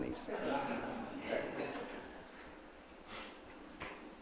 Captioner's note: audience laughs